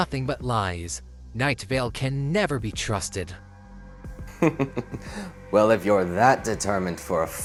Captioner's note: chuckles